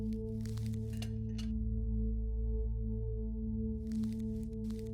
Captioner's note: glass clinks